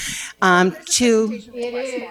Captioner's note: audience chattering